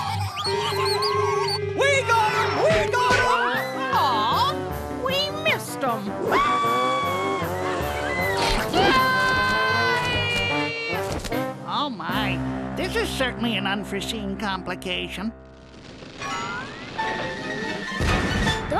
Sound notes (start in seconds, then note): 0.0 ants cheering; 6.3 screaming